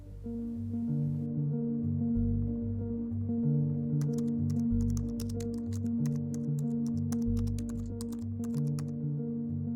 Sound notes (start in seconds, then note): 0.1 pensive music; 4.0 keyboard clacking